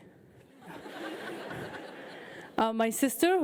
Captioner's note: audience laughs